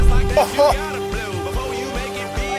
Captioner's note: laughing